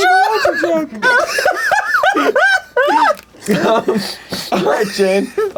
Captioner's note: laughing